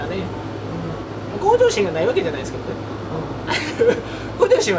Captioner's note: laughs